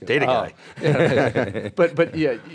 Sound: laughter

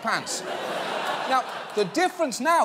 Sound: audience laughing

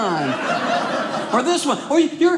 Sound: audience laughing

